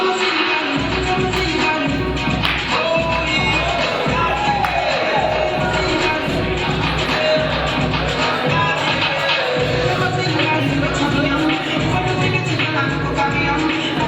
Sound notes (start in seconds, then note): 0.1 upbeat music; 5.7 audience cheering